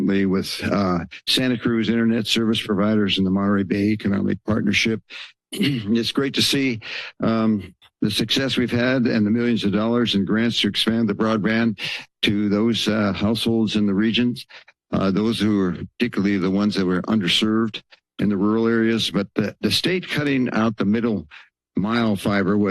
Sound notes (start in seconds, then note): 5.5 clears throat